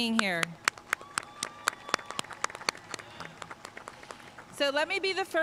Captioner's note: audience clapping and cheering